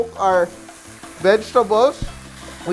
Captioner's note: sizzle